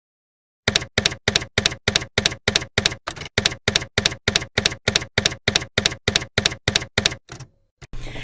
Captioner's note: typewriter keys clacking